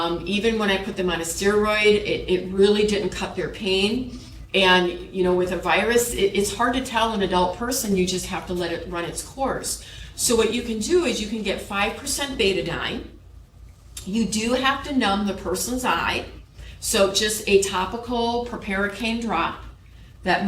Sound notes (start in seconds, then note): none